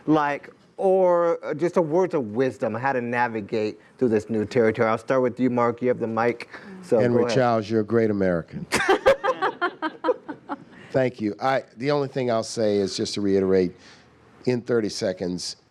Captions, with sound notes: Like, or, just some words of wisdom how to navigate through this new territory. And I'll start with you, Marc. You have the mic. So, go ahead. >> Henry Childs, you're a great American. [ Laughing ] Thank you. The only thing I'll say is to just to reiterate in 30 seconds.